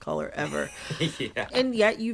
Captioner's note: laughter